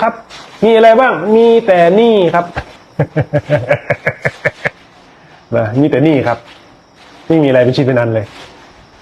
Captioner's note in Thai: เสียงหัวเราะ